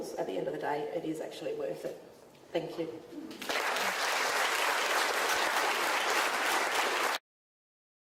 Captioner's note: audience claps